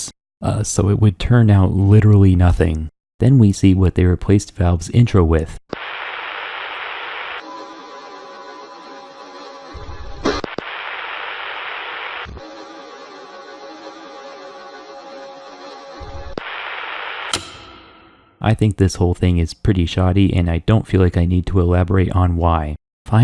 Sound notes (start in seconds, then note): 5.7 random static, clicking and machine noises